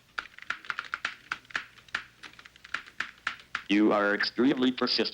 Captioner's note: keyboard tapping